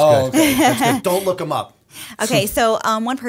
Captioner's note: chuckle